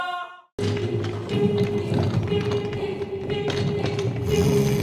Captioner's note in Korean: 침대 바퀴가 드르륵 끌리는 소리; 코 고는 소리